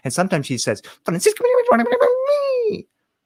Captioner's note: spoken in foreign language